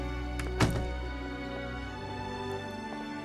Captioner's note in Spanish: Ruido al cerrar la puerta